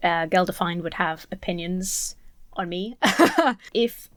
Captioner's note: laughs